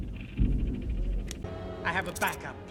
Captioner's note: click